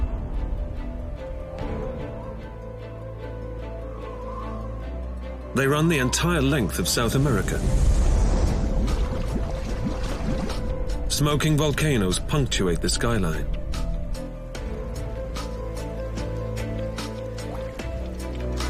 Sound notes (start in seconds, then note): 0.2 mysterious music; 8.0 water gurgling; 13.7 mysterious music